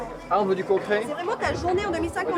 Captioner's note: speaking french